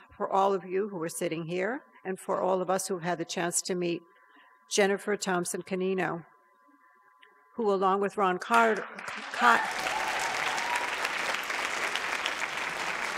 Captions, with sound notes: for all of you who are sitting here. And for all of us who had the chance to meet Jennifer Thompson Cannino, who along with Ron Cotton-- (audience applauds)